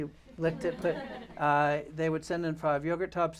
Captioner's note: laughter